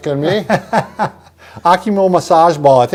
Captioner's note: laughs